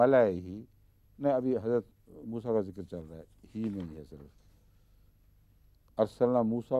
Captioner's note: Arabic